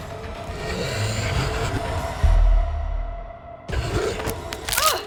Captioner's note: vampire growls